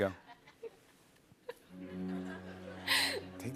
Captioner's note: laughing